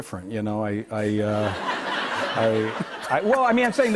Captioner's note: laughter